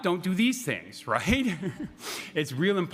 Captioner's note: laughing